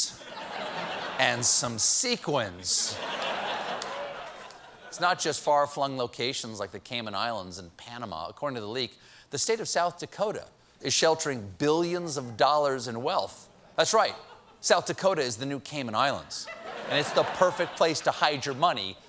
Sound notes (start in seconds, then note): 2.8 laughter